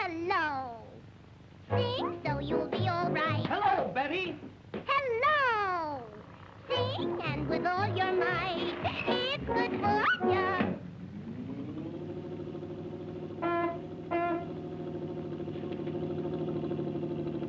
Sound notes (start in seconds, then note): 13.4 bus horn beeps